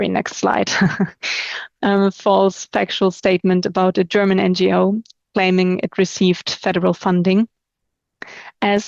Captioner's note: chuckles